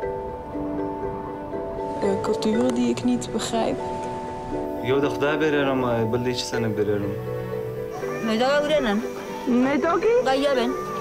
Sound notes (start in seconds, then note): 7.5 woman No. 2 speaking native language